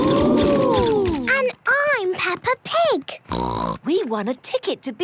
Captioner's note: snort